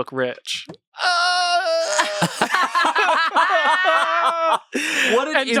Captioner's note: everyone laughs